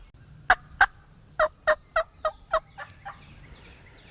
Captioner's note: turkey calls